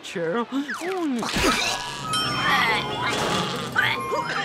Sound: coughing

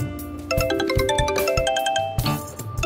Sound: phone rings

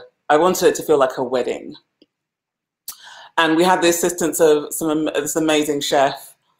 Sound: none

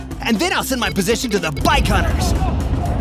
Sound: beeping

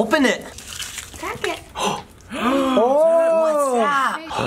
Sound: gasping

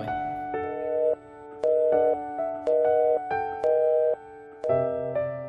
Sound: phone Sounds; deep music

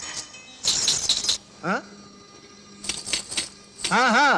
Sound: bangles clinking

